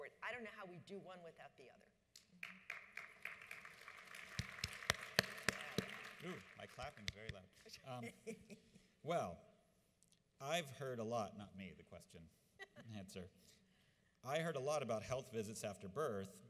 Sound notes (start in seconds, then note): 2.4 audience applauds; 7.9 laughs; 12.6 laughs